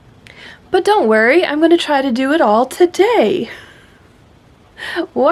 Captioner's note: laughs